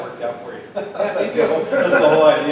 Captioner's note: both laughing